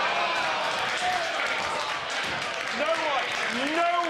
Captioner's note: applause